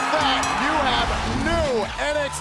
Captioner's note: bell ringing